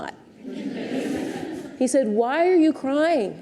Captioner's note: audience laughs